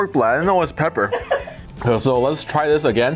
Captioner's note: man laughs